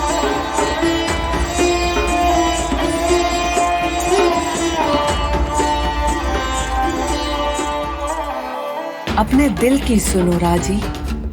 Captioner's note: speaking foreign language